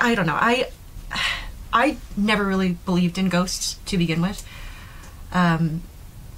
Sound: sighs

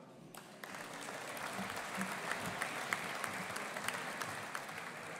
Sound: audience applauding

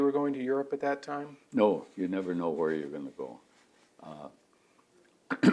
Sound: clears throat

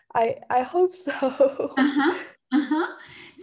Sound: chuckles

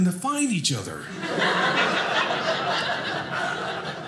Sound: audience laughing

